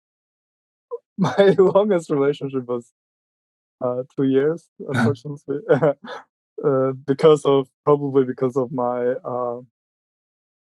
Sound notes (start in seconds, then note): 1.9 laughing